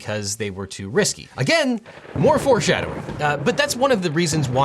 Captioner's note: thunder rumbles